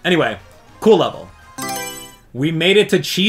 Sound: Mario Selection Sound

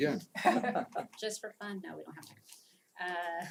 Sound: laugh

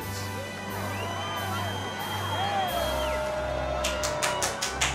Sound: cheering and applause

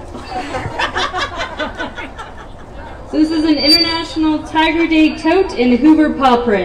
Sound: laughter

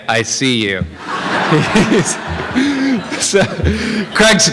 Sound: laughter

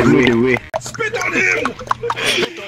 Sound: with some clucking; while clucking continues

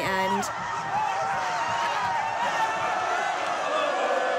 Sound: crowd cheers

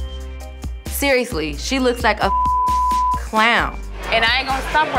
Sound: beep

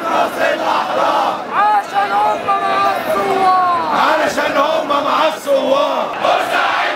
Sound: chants

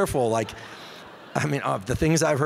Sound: audience laughing

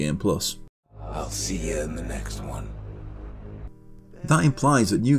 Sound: in-game audio

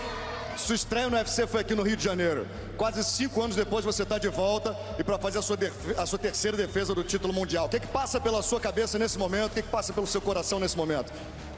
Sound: speaking foreign language

